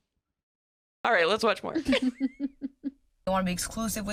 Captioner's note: chuckles